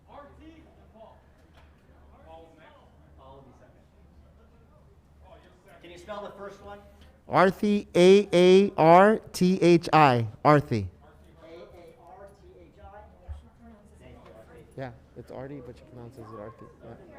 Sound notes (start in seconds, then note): 15.6 speaking off mic